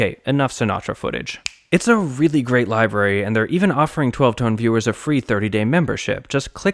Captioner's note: snap